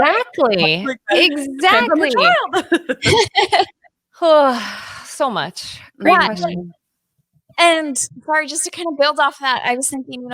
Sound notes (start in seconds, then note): 3.5 laughs; 5.5 sighs